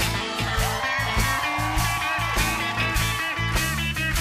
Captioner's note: cheers and applause